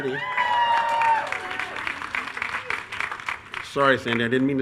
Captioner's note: attendees cheering